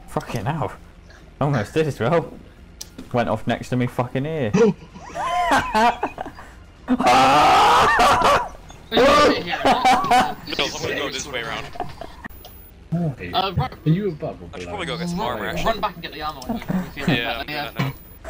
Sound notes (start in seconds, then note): 4.5 both laughing